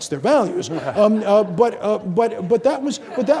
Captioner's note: audience laughing